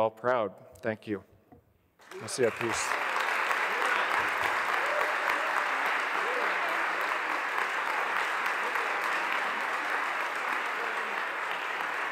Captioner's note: applause